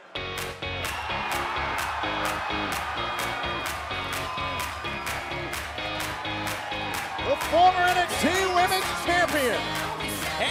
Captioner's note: cheers and applause